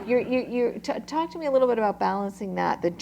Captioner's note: laughter